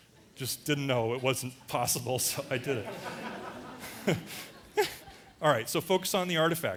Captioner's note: audience laughter; laughter